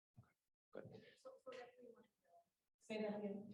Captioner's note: voice muffling